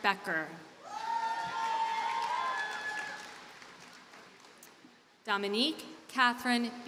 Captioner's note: audience cheers and applauds